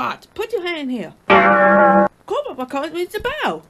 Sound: dings

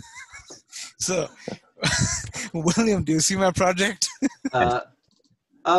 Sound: laughs

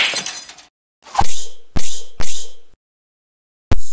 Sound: glass Smash; alarm Clock Banging?

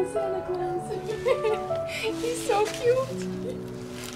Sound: laughter

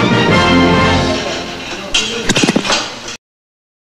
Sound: splat

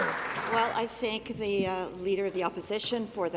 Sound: applause

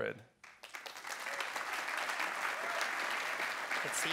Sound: audience claps

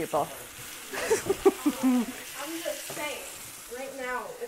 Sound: laughs

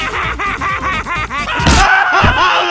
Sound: soldier scream

